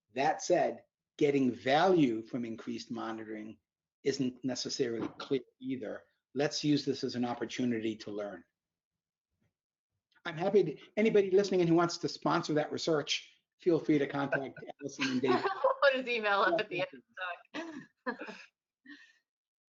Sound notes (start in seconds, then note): 13.9 all laughing